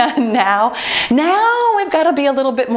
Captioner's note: timer beeping